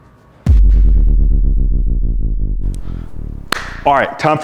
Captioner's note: descending tone; clapping hands